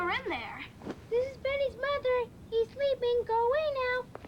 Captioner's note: Benny in high voice